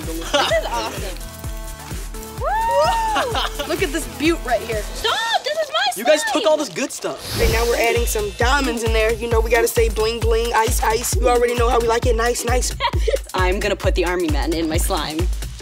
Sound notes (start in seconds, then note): 2.8 laughs; 12.7 laughing